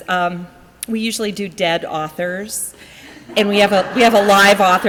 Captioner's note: audience laughs